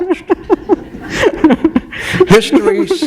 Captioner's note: laughter